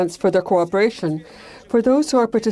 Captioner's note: speaking French